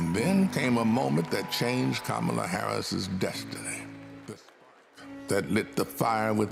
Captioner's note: applause